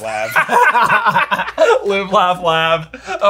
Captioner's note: all laugh